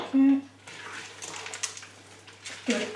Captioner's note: stirring